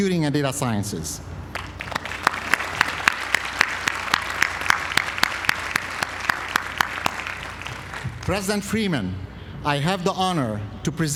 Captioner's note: applause